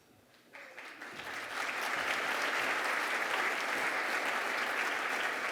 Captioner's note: applause